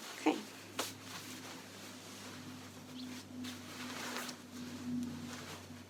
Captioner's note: fabric rustling